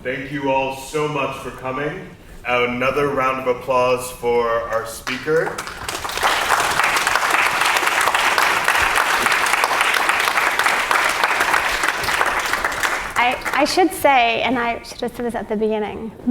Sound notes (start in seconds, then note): 5.6 audience applauds